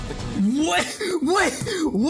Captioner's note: laughing